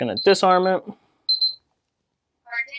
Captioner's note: beeping